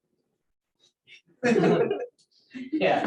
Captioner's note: laughs